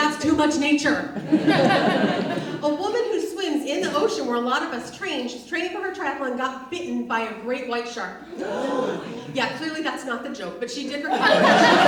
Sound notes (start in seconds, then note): 8.3 audience gasps